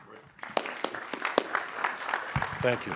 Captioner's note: audience applauding